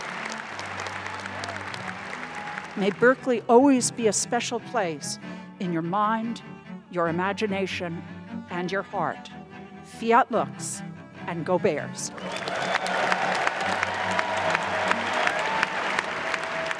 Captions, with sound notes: - May Berkeley always be a special place in your mind, your imagination, and your heart. Fiat lux, and Go Bears. (applause)